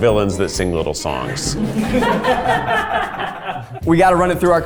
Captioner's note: all laughing